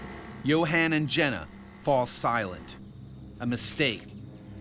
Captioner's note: voiceover